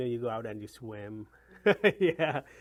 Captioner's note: laughs